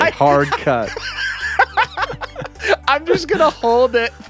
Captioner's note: laughing